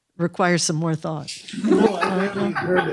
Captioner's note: laughter